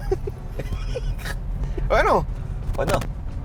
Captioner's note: both laugh